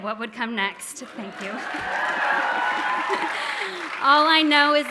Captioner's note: audience cheering